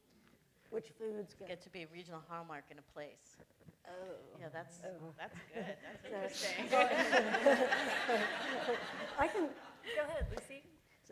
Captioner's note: laughter